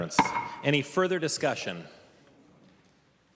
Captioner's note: gavel